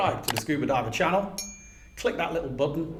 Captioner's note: bell ringing